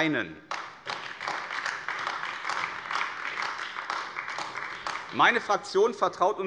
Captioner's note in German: Beifall AfD